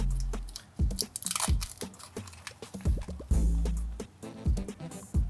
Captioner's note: tape crinkling